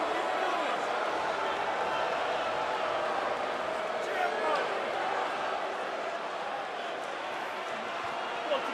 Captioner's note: crowd chatter